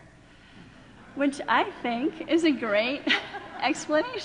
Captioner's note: laughing